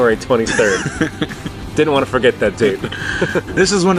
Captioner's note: laughing; laughs